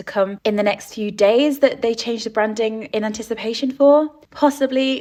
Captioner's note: none